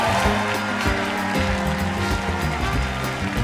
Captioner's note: applause